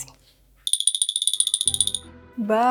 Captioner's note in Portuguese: Som de dente batendo